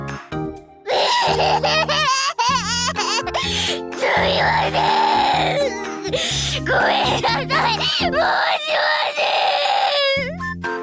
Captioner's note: sobbing